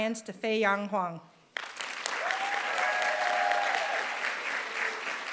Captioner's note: applause